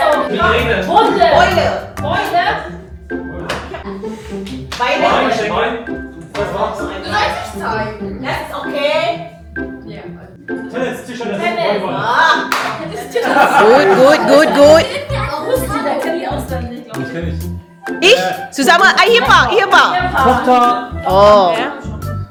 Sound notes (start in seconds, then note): 15.7 speaking German